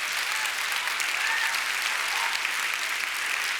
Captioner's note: applause